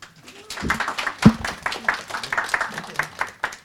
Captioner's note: applause